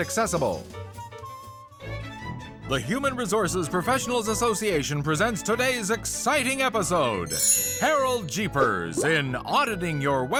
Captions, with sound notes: [upbeat music] The Human Resources Professionals Association presents today's exciting episode -- [chimes] Harold Jeepers in, Auditing Your Website for Accessibility.